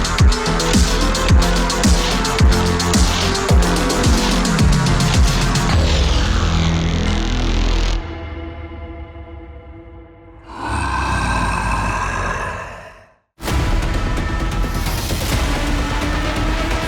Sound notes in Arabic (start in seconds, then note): 10.4 الشيطان يزأر; 13.4 موسيقى مكثفة